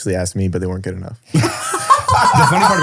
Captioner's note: all laughing